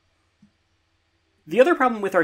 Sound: beat

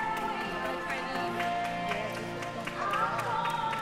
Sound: clapping

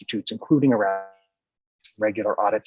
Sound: distorted audio

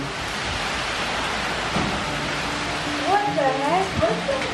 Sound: heavy rainfall

